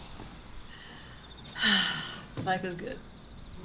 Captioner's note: sighs